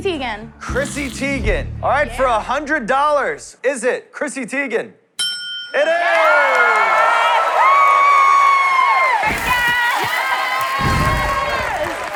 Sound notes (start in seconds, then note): 5.2 ding!; 5.8 cheers and applause